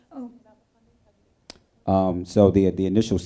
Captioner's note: speaking faintly